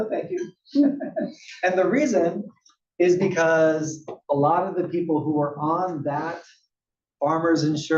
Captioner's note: laugh